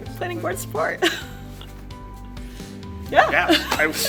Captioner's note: laughs